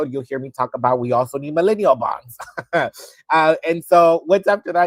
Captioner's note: laughs